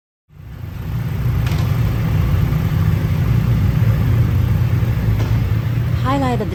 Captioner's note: engines revving